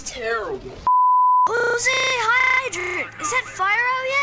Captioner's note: stuttering